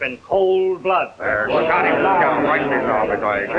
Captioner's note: crowd murmurs angrily